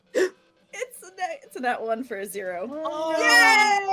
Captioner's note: gasps